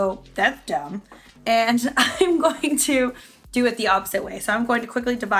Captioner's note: laughs